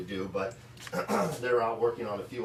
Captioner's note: clears throat